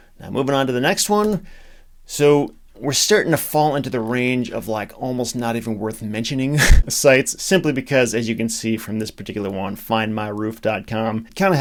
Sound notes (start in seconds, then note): 6.6 laughs